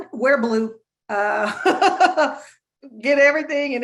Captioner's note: laughing